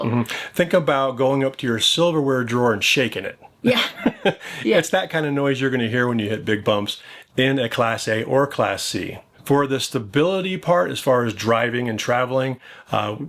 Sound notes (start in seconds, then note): 3.6 laughs